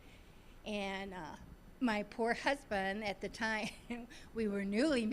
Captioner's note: chuckling